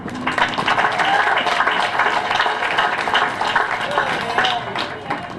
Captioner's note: applause